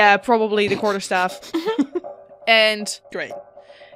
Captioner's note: laughs